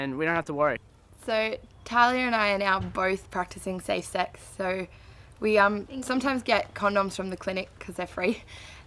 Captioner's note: laughs